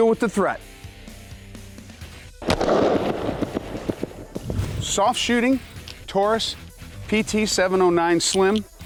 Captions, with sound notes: deal with the treat. (fires gun) Soft shooting, Taurus PT709 Slim